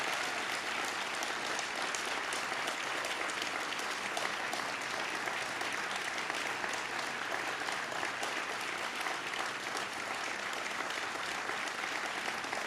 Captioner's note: cheers and applause